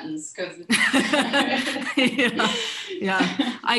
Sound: shared laughter

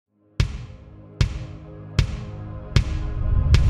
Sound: ball bouncing

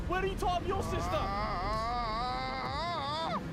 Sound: groans

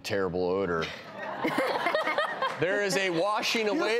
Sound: audience laugh

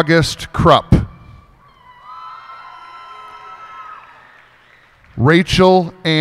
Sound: cheers and applause

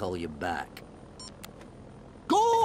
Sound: phone beep

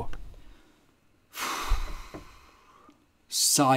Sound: sigh

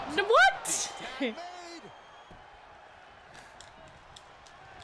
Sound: laugh

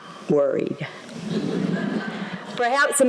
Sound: laughter

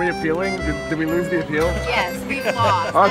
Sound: laughing

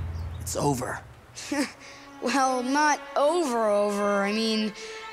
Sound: chuckles

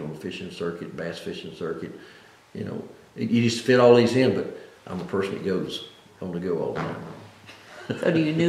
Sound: laughs

